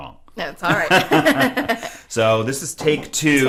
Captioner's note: laugh